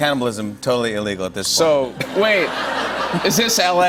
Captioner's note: laughter